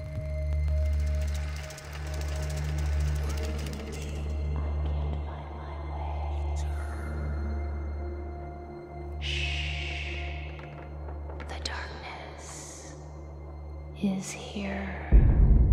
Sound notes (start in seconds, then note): 0.1 eerie music; 0.7 film reel clicking; 9.3 Kate shushing; 15.5 ominous music